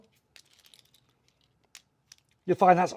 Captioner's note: buckle rattling